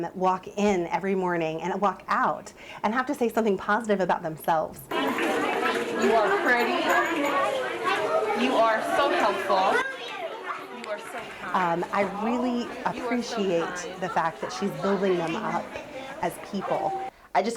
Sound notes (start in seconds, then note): 5.0 kids talking